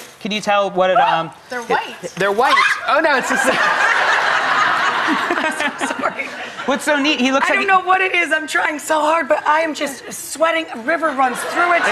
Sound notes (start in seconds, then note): 2.5 Rachael screams; 3.0 audience laughs; 11.0 audience laughs